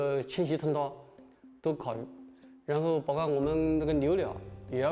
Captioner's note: speaking chinese